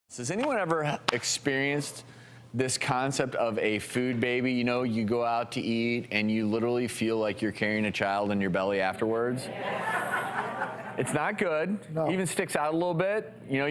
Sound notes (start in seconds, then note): 9.4 audience laughs and agrees